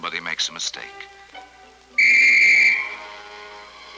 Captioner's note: whistle blowing